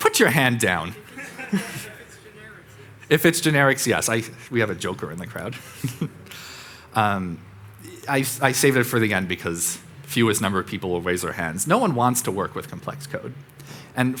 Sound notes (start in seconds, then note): 0.9 audience laughing; 5.4 chuckling